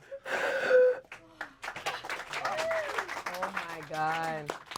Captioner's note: everyone applauds